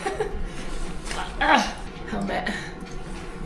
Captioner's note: giggles; grunts